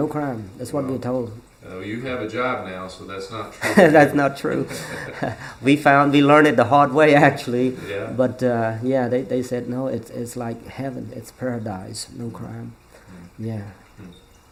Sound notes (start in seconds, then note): 3.6 laughs